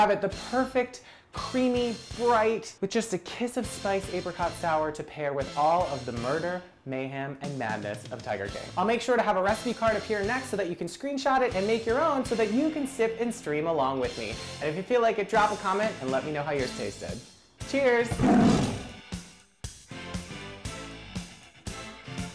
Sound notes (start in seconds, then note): 18.1 tiger roars; 19.3 triumphant music